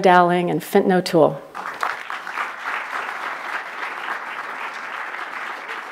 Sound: applause

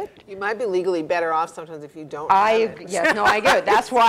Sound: laugh

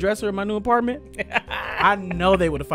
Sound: laughter

